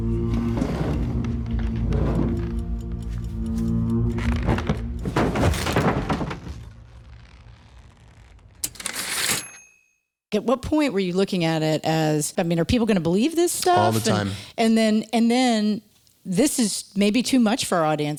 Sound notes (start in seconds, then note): 0.0 eerie music; 5.0 chair crashing sounds; 8.7 typewriter ding